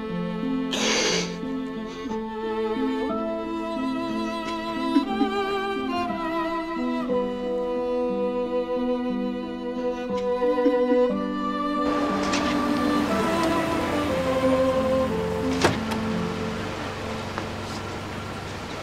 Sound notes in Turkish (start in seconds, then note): 0.2 Mahir ağlıyor; 4.4 Mahir ağlıyor; 10.0 Duygusal müzik